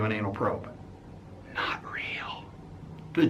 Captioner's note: whispered